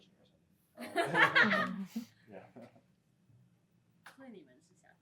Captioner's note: laughter